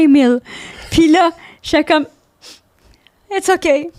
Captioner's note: in french